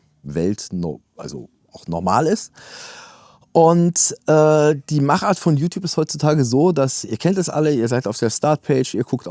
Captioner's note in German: japst